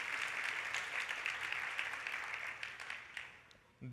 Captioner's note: applause